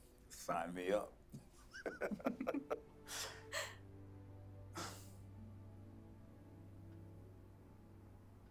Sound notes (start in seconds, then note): 1.7 Darnell and Karen laugh